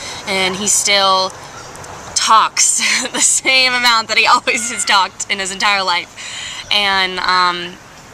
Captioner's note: laughing